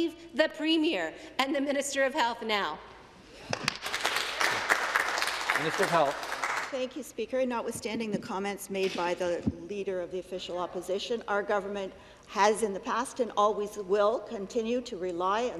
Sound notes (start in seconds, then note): 6.3 some Applause